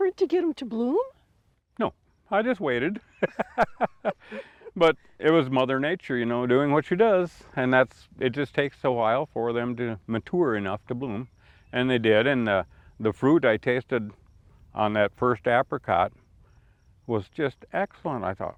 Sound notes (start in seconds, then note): 2.9 laugh